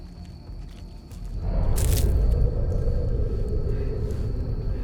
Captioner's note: air whooshing